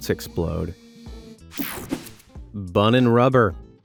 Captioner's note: scene change whooshing